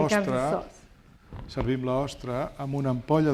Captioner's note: speaking spanish